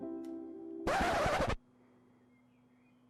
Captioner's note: record scratch